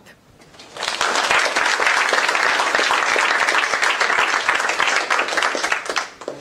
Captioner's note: applause